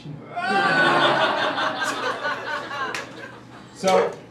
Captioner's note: crowd laughing